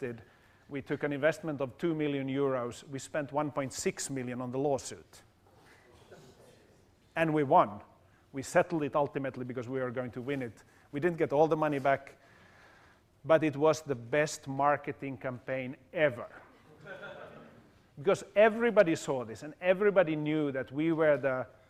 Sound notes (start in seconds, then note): 16.6 laugh